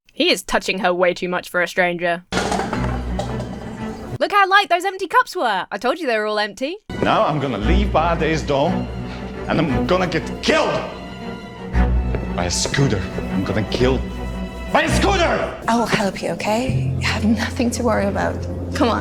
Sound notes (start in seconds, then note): 2.3 cups clattering